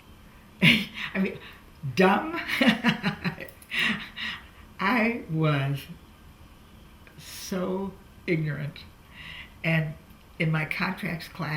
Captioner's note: laughs